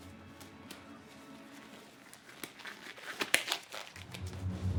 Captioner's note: gloves stretching